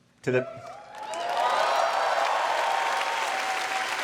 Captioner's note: applause